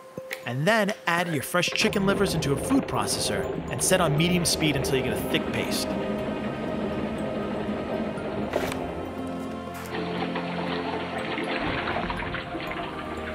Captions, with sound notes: And then add your fresh chicken livers into a food processor, and set on medium speed until you get a thick paste. (whirring) (water rushing)